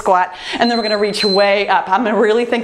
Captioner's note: timer beeps